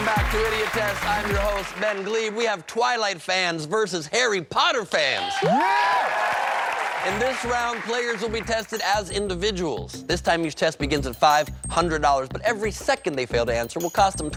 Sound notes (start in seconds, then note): 0.0 funk music; 8.1 cheers and applause